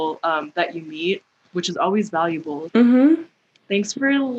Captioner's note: mhmm